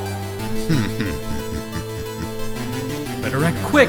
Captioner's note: chuckling